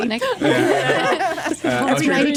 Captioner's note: laughter